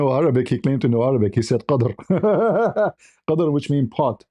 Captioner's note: ketawa